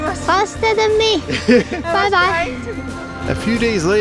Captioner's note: laughs